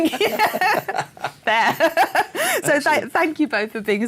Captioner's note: laughing